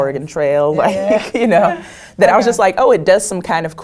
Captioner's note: laugh